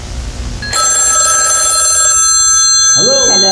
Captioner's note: RRiiiIINNGG